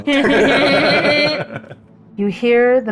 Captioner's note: everyone laughs